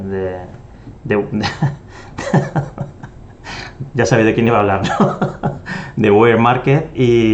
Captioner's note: laughs